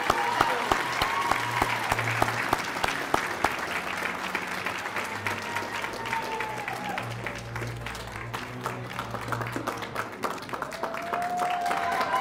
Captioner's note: cheers and applause